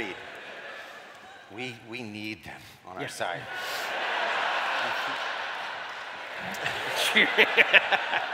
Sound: cheering

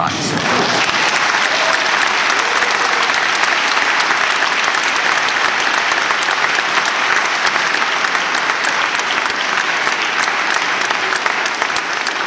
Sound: applause

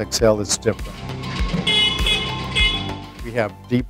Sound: horn beeping

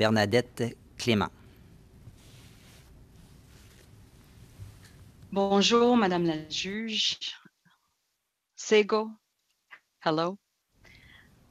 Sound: speaking French

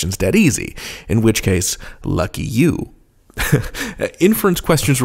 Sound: laughs

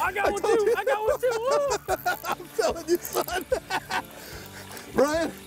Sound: both laughing

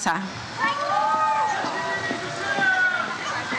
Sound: audience cheers

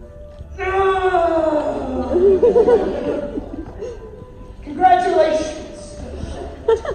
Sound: groans

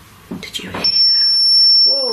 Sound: metre beeps

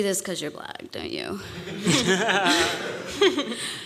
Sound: laughter

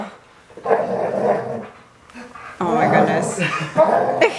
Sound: dog growls

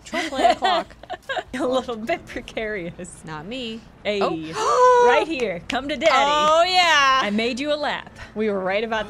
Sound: gasps

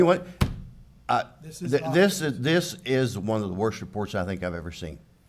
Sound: slams table

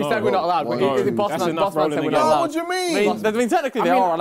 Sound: both mumbling

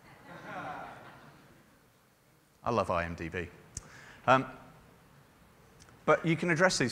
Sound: laughter

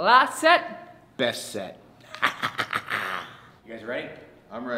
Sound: laugh

